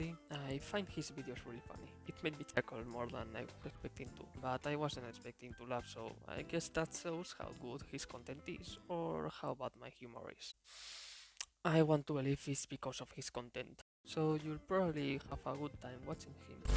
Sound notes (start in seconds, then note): 10.7 inhaling and exhaling